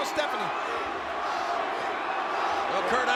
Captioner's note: crowd chants "Rocky"